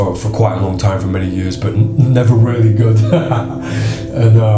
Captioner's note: laughs